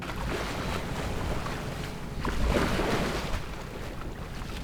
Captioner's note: waves splashing